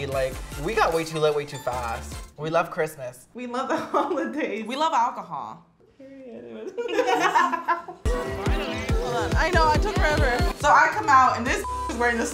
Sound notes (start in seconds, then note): 6.0 laughing; 11.5 beep